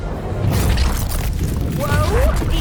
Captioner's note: crackling